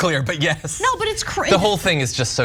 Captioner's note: laugh